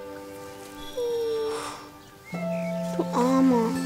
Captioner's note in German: Winseln